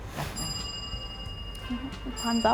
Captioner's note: bell Rings